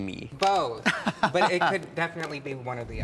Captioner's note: chuckles